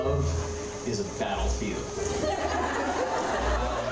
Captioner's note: laughter